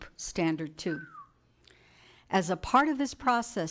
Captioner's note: whistle